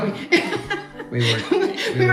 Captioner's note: chuckles